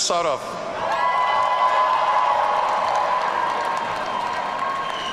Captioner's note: audience cheering